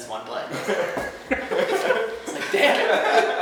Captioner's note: laughing; thump; laughing